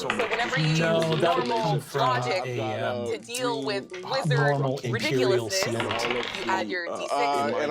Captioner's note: dice rolling